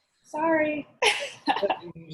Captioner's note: laughter